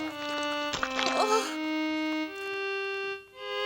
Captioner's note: sighs